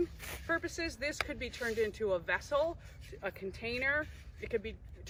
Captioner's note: slap